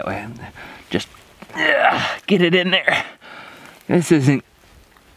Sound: groaning

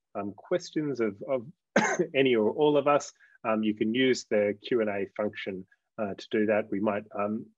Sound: coughs

